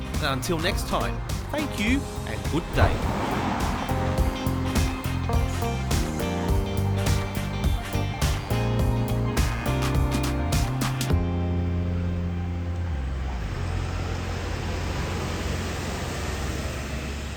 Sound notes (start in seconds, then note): 3.8 upbeat music; 13.6 bus engine droning